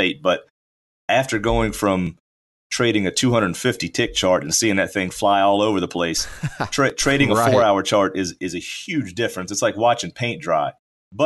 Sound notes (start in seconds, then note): 6.2 laughs